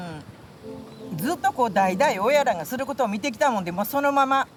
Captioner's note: speaking Japanese